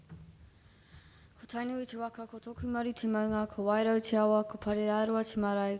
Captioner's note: speaking foreign language